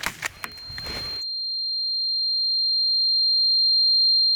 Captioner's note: ringing echoes